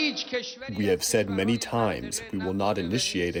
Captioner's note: through translator